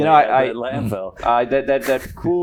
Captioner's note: chuckles